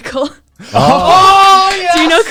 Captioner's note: claps